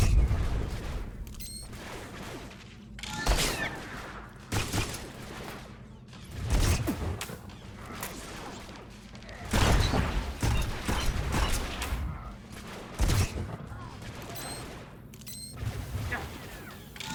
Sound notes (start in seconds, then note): 1.1 gunshots; 6.6 gunshots